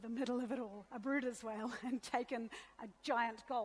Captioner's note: laughter; laughs